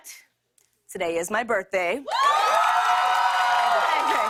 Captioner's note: cheers and applause